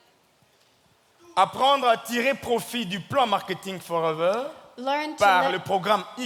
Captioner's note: speaking in French